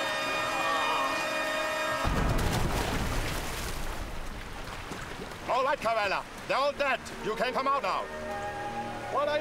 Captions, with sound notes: (splash) - All right, Karella. They're all dead. You can come out now.